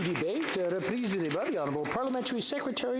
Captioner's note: applause